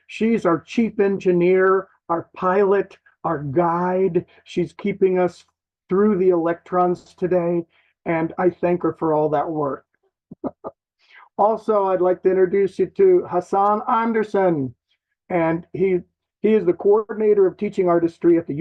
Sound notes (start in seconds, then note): 10.3 chuckles